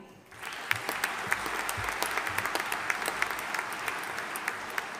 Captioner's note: audience applauding